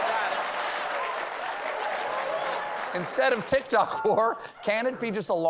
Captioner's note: cheers and applause